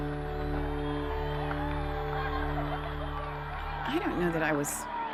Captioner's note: cheers and applause